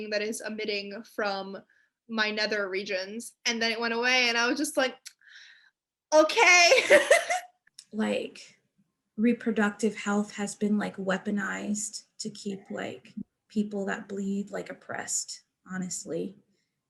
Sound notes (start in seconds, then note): 6.8 laughing